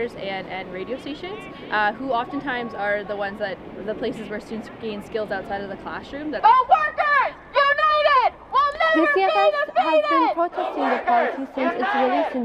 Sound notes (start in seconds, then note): 6.8 chanting